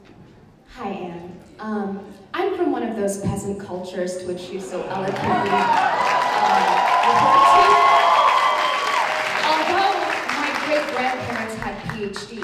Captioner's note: applause